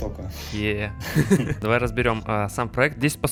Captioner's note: laugh